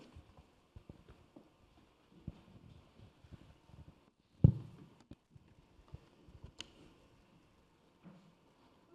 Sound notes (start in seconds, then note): 4.4 laptop thuds